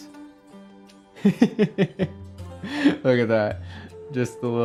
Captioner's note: laughs